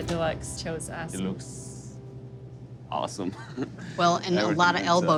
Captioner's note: laughs